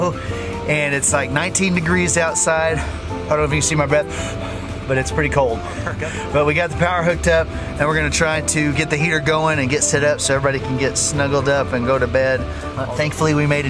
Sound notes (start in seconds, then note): 4.0 breathes out hard